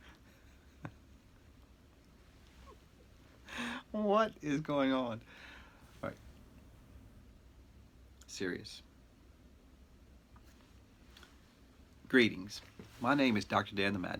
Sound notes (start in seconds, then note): 0.0 chuckles; 2.5 chuckling